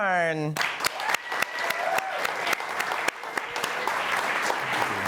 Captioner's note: audience applauding